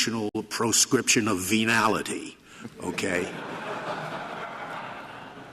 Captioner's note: laughter